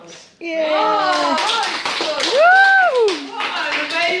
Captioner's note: participants and break in to cheering and applause